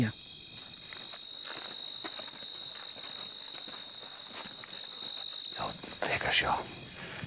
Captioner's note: sound of crickets